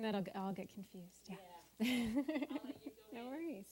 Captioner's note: laughing